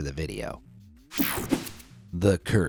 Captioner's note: graphics whooshing